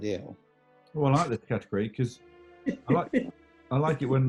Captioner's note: giggling